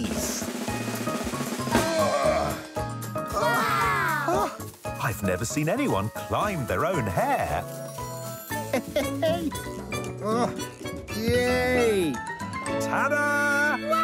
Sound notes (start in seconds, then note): 0.0 drum rolling; 8.6 laughing